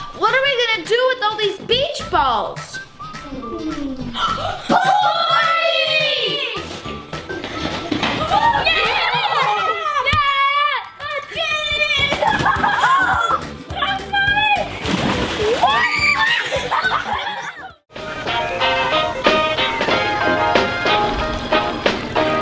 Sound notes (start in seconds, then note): 8.3 cheering; 12.3 shouting; 17.9 upbeat jazzy music